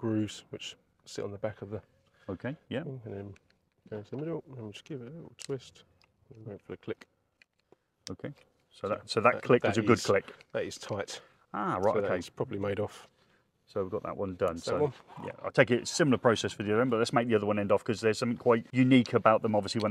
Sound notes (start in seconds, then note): 5.5 plastic clicks; 7.4 connector clicks